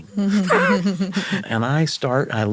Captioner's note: chuckle